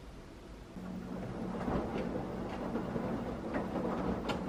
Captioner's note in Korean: 세탁기 돌아가는 소리